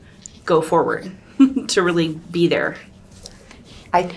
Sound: chuckles

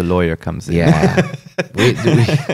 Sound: laughs

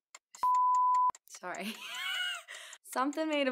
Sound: beep; laughing

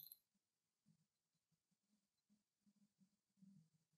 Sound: silence

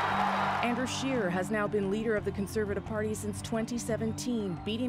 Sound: cheers and applause

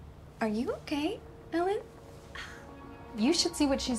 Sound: sighs

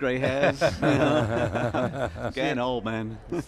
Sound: laughing

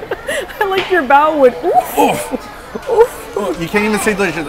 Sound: laughs; laughs

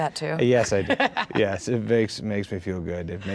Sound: Jeniffer laughs

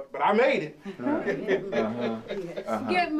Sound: all chuckles

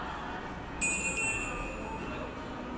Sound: door bell sound

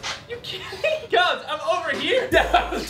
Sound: laughter

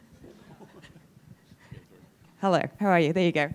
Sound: chuckling

